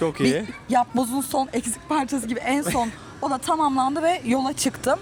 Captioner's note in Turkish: kahkaha